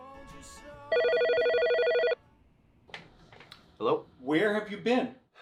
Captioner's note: phone ringing